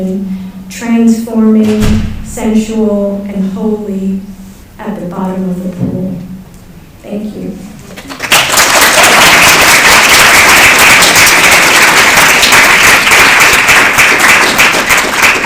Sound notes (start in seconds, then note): 7.9 applause